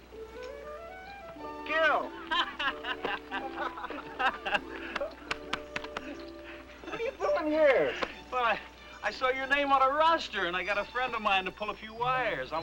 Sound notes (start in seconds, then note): 0.2 bright orchestral music; 2.1 both laughing